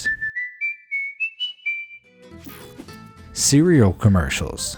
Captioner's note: person whistling